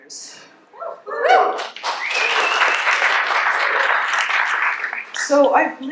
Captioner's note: cheers